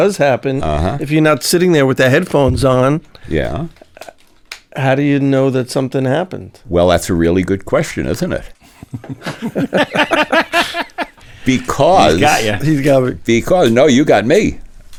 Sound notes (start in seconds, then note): 8.6 laugh